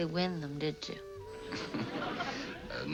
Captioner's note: laughs